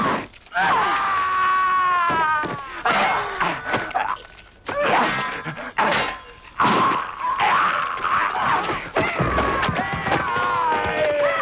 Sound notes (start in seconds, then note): 0.6 raider screams; 3.0 both grunting